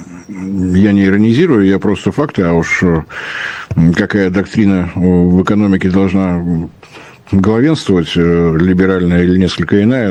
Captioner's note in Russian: фыркает